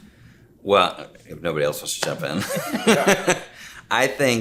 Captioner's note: laughing